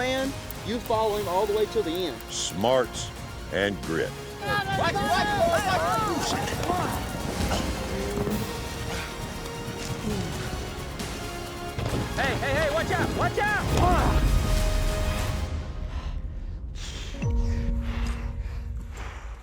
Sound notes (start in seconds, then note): 4.3 cowboys shouting; 5.9 grunt, thud; 6.9 breathing heavily; 13.5 thud; 14.3 breathing heavily